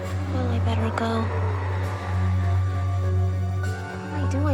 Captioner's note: eerie ghostly chattering